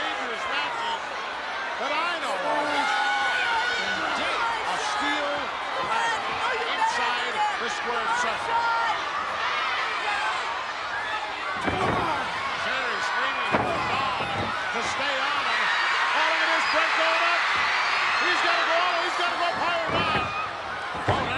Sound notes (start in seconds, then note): 0.0 applause; 4.6 applause